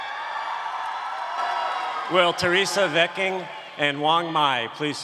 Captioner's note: applause